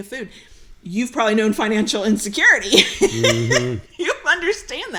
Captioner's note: laughs